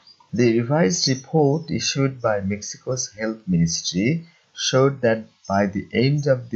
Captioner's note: in Spanish